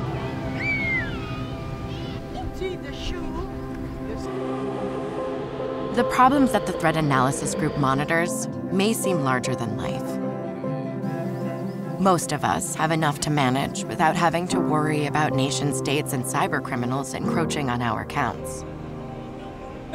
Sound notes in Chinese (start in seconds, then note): 0.2 女孩高興的喊叫聲; 4.0 地鐵的聲音